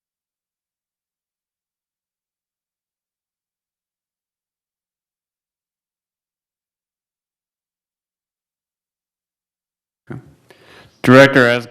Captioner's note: loss of audio